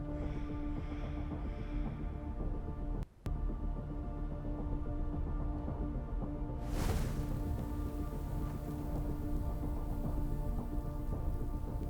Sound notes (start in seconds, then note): none